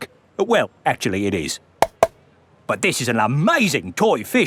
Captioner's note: taps